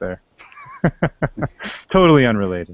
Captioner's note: laughter